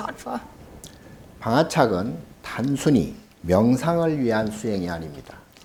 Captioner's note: speaking Korean